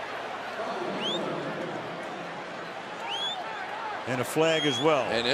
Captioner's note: pa announcement